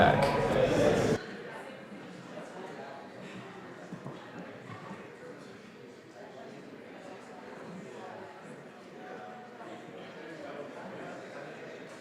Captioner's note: general chatter